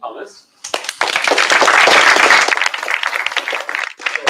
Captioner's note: applause